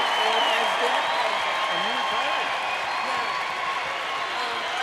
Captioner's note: cheers and applauds